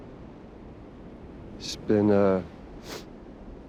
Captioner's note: sniffles